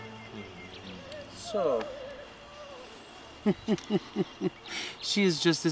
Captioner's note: chuckles